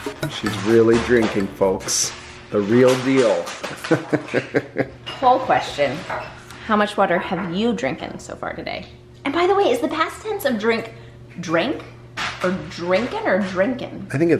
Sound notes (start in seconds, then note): 3.7 laughs